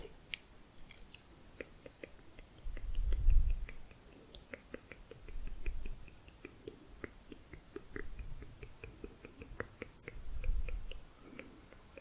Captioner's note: tongue clicking, back of mouth